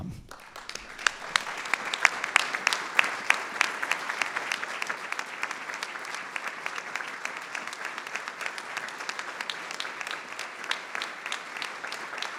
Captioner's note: applause